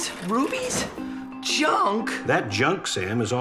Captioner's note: groaning